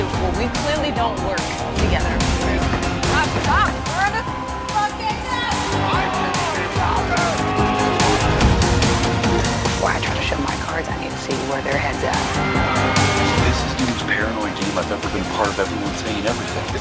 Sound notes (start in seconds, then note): 2.2 intense music; 4.7 contestants yelling; 6.0 intense music; 12.8 contestant yelling